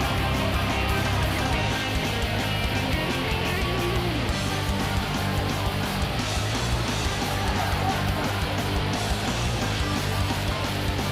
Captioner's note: crowd chatter